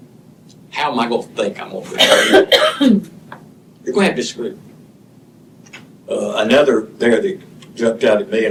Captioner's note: cough; clears throat